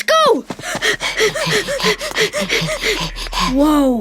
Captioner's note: breathing heavily